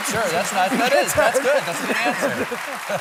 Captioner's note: applause